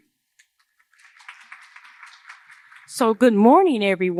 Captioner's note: applause